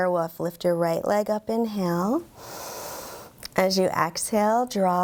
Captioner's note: inhales deeply